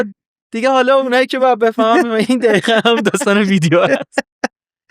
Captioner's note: laughs